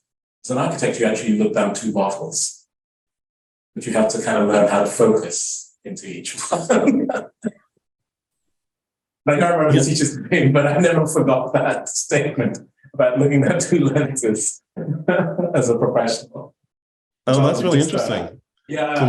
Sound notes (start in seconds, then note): 6.1 laughing